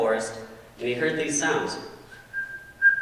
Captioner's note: whistling